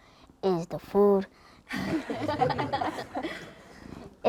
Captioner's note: laughter